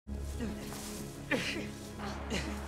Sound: all grunt

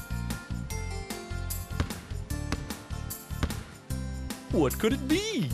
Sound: ball bounces

